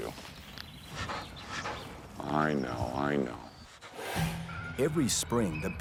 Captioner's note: bear huffing